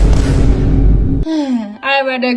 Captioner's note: sigh